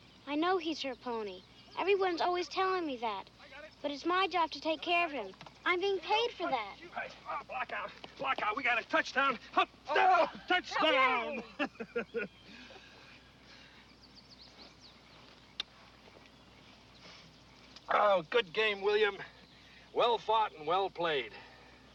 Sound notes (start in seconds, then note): 9.2 laughs; 10.0 grunts